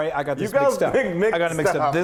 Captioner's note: chuckling